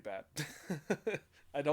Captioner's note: laughs